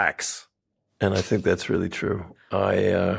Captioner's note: hosts chuckle